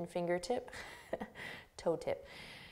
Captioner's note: laughing